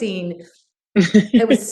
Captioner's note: laughs